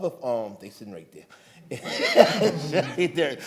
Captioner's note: laughs